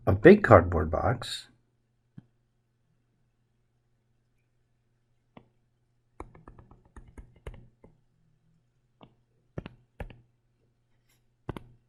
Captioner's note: writing Sounds